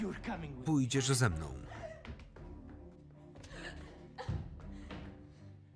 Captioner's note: Deborah whimpering